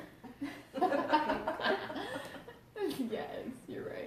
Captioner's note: laughs